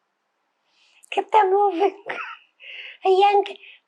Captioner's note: laughing